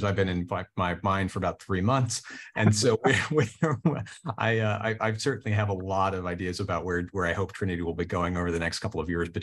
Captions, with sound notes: I've been in my mine for about three months. And so [CHUCKLES] I certainly have a lot of ideas about where I hope Trinity will be going over the next couple of years.